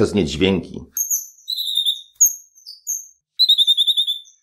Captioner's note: parrot singing